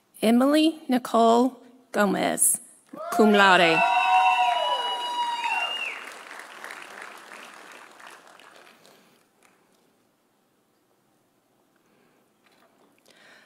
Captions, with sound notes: Emily Nicole Gomez, cum laude. (audience cheering) (audience applauding)